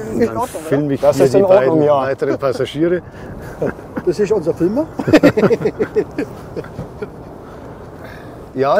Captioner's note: laughs; laugh